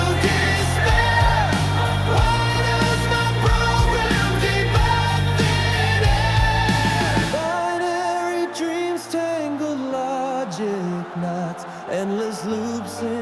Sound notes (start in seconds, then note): 9.1 applause